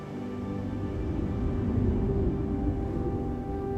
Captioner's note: wind whirling